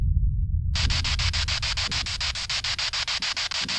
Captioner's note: spirit box sound